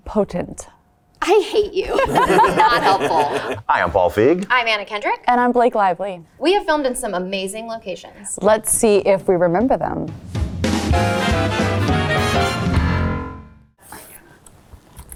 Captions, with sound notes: - Potent. - I hate you. [group laughing] This is not helpful. - Hi, I am Paul Feig. - I am Anna Kendrick. - And I'm Blake Lively. - We have filmed in some amazing locations. - Let's see if we remember them. [upbeat instrumental music]